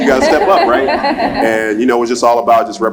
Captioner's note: laugh